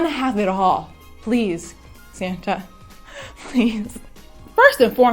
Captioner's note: giggles